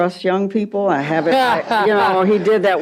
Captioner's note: laughs